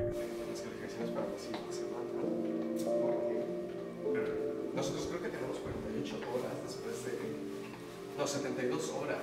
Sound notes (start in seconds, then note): 0.2 piano music; 4.9 talking in Spanish